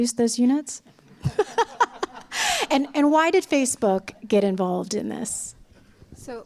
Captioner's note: laughter